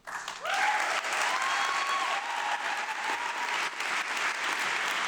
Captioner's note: audience applauding